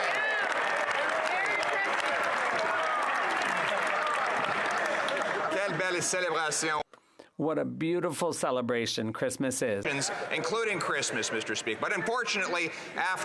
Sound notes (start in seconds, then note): 2.4 some Applause